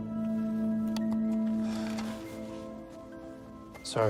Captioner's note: sighing